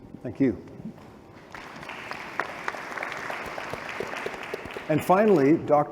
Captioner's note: applause